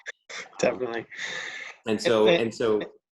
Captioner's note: laughs